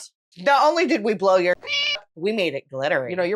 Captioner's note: meow